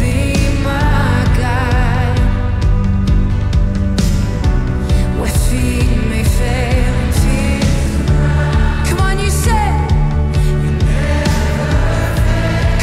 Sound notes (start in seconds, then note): 7.7 crowd